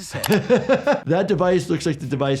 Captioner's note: laughs